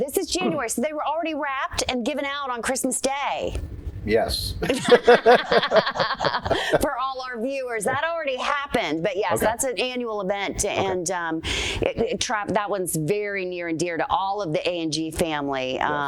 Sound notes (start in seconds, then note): 4.6 laughter